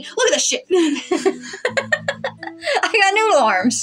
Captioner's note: chuckle; laugh